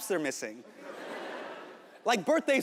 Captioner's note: audience laughing